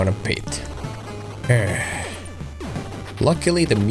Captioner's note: sigh